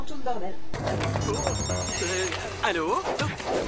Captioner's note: ringtone phone